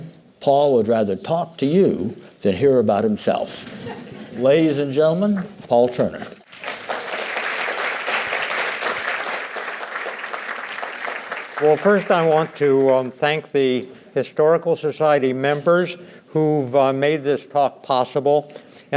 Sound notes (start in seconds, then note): 6.4 applause